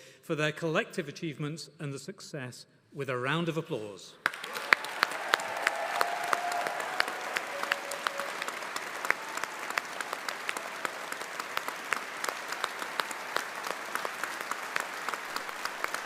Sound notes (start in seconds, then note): 4.4 audience applauding; 4.4 audience cheering